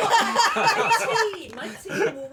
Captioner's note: laughter